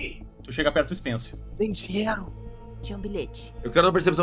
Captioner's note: whispering